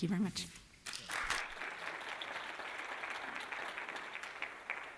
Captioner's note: applause